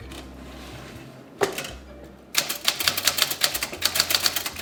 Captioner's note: typewriter clicking